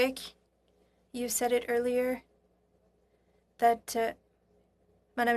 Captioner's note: speaking French